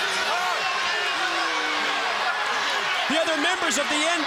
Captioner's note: crowd cheering